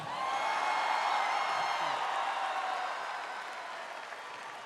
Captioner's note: audience cheering